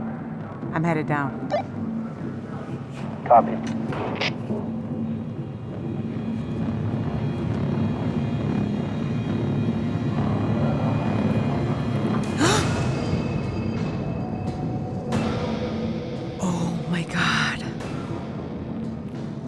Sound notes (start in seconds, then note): 12.4 gasps